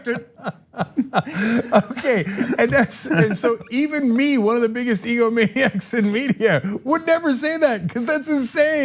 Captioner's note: laughing